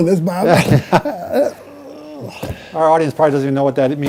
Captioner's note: laughing